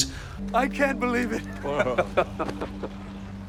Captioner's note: laughs